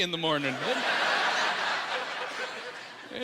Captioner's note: laughing